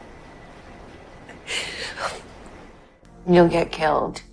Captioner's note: Serena cries